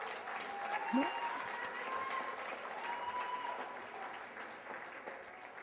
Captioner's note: cheers and applause